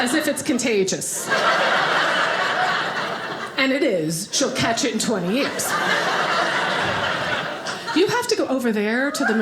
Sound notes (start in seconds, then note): 1.1 audience laughing; 4.7 audience laughing